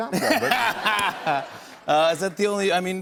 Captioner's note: laughter